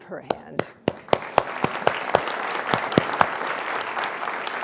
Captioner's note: applause